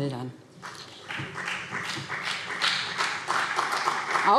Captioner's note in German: Beifall BÜNDNIS 90/DIE GRÜNEN und CDU